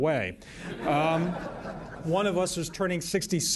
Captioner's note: laughter